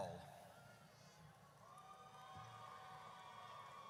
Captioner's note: audience cheers